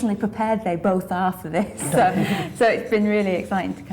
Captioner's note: laughing